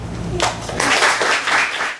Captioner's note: class applauds